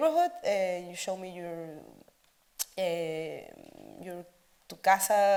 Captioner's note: speaks Spanish